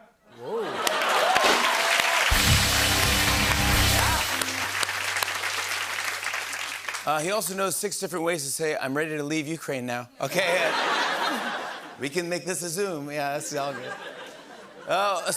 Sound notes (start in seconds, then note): 0.4 cheering and applause; 1.3 rimshot; 10.3 laughter